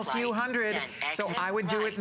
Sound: electronic voice

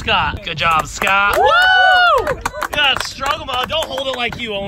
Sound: all cheering

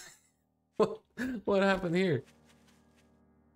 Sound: laughs

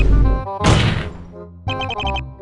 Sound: angry desk slam

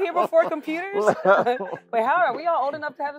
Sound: laugh

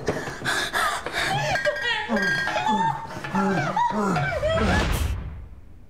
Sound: sobbing; grunting; thunderclap

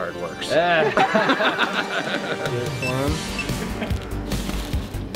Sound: everyone laughs

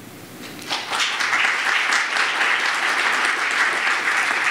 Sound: audience applauds

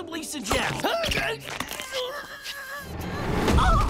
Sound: grunting

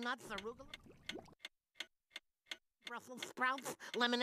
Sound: clock ticking

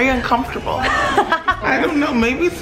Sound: laughing

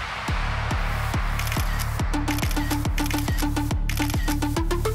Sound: upbeat music playing; cameras clicking

